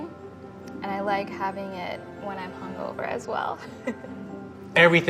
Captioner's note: laughs